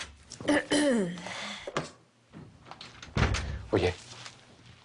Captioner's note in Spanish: Carraspea